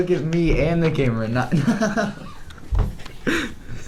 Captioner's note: laughter